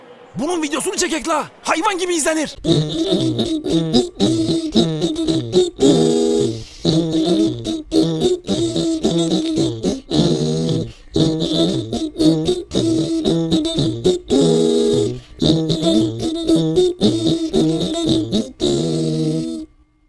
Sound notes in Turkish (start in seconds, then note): 5.8 Özcan Show Video Bitiş sesi